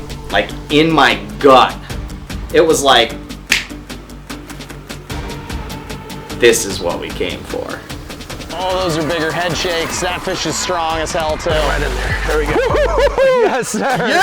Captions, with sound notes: Like in my gut.... It was like *SNAP* THIS IS WHAT WE CAME FOR!! Oh those are bigger head shakes. That fish is strong as hell too. Yes Sir! YEAH BUDDY!!!